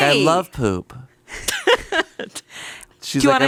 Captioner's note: chuckles